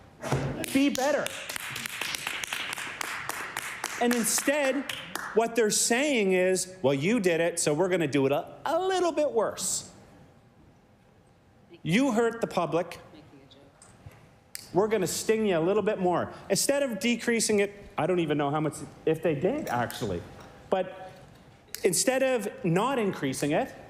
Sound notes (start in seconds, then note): 3.5 applause